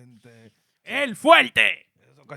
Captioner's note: speaking In Foreign Language